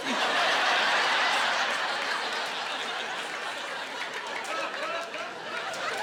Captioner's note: laughing